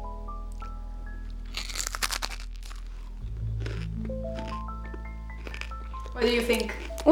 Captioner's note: crunching sounds